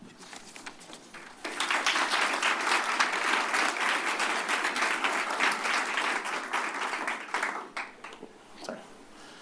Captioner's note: applause